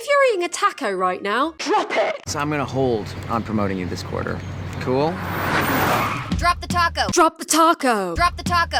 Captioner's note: car screech